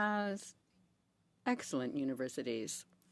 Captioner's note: speaking in French